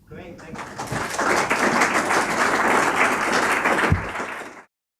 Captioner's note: applause